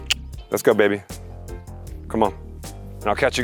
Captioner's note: clicks tongue